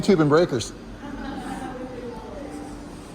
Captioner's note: resort Staff laughs